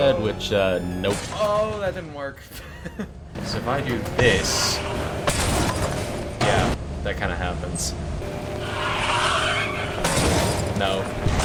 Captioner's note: explosion